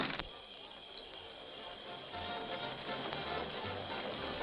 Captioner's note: insects chirping